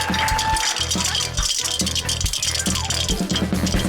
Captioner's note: coins rattle